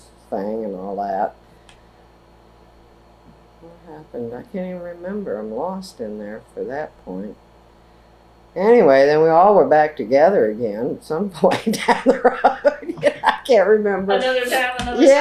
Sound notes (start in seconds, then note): 11.4 laughs